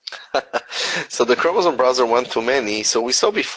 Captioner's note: laughs